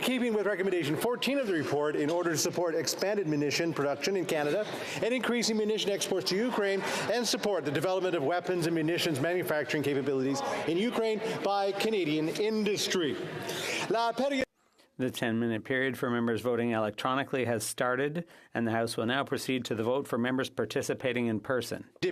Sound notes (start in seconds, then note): 17.6 speaking French